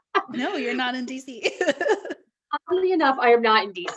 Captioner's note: laughs